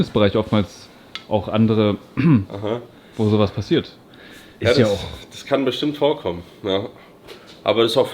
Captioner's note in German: räuspern